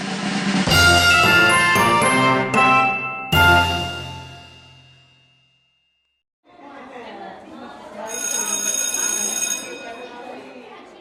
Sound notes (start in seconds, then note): 0.6 upbeat music; 7.9 bell ringing over children chattering